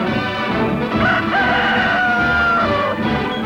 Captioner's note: rooster crow